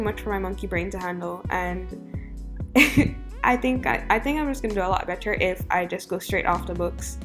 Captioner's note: nervous chuckle